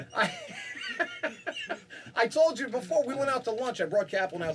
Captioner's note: laughing